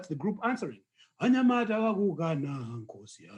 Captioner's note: non-english speech